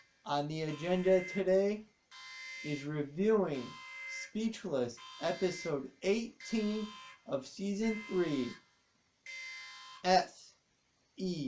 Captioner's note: alarm stops